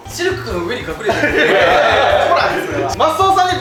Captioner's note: laughter